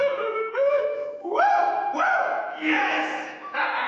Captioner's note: man laughing diabolically